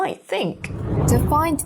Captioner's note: air whooshing